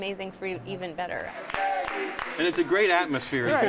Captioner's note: all chanting